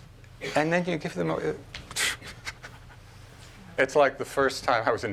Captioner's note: laughing